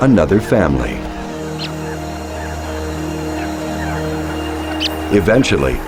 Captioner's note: enchanting music; birds chirping